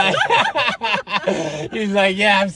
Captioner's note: laughing